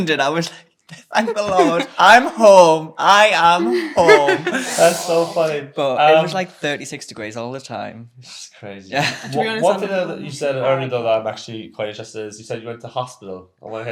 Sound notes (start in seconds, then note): 3.6 chuckling; 8.8 laughs